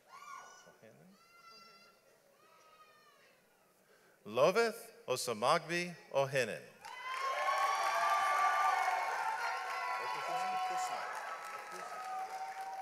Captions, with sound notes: Loveth Osamagdi Ohenhen. (audience applauds)